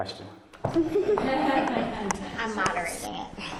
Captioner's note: audience laughing